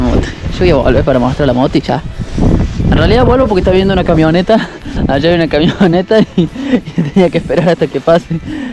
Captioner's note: laughs